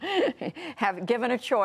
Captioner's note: laughter